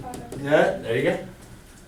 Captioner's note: voiceover